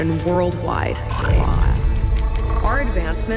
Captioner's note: audio distorts